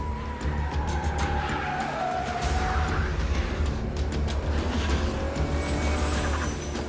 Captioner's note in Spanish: Chirrido de gomas